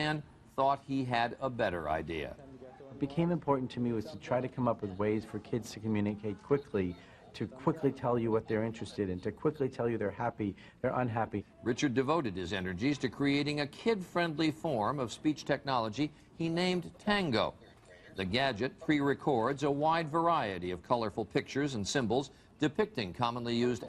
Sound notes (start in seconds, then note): 3.1 voiceover; 11.6 voiceover